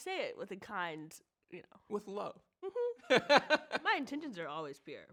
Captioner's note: laughs